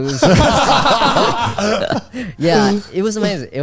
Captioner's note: all laughing